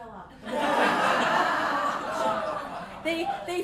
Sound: laughter

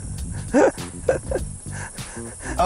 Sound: laughs

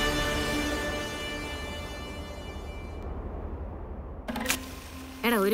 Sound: none

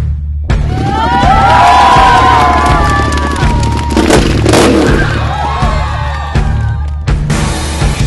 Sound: cheering/Applause

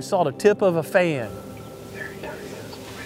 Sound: whispering

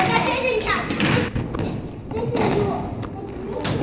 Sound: shouting

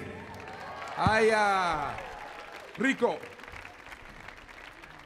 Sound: audience applauding; speaks in Spanish; audience applauding

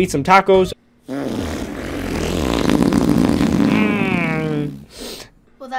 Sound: loud FART Noise

